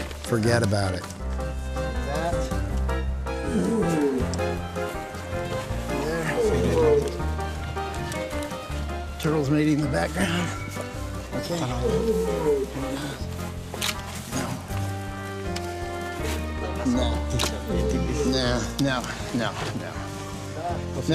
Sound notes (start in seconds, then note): 3.4 tortoise grunting; 13.6 camera clicks; 17.7 camera clicks